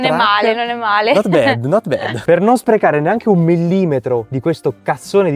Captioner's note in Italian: risate